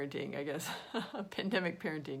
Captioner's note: laughing